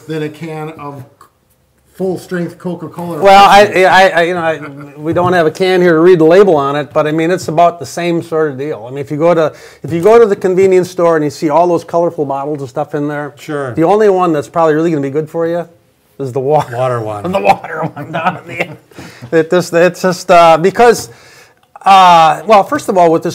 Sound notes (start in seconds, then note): 4.5 laughing; 17.2 laughing; 17.2 laughs